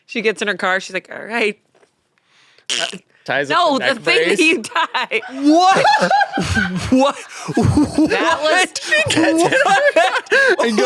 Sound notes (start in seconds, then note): 6.2 laughs